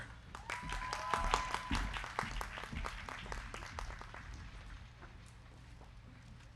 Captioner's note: crowd clapping; crowd cheering